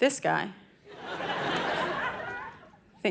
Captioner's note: audience laughing